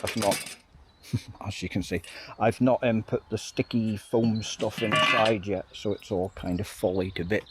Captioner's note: laughs